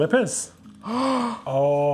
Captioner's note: gasp